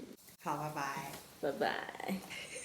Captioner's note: laughs